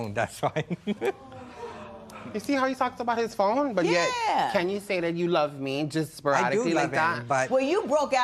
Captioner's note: laughs